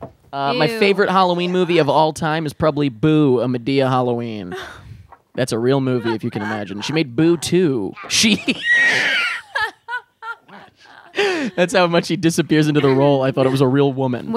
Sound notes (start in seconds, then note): 8.0 laughing; 8.6 wheezing again